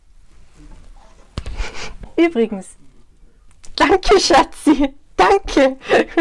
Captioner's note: laughs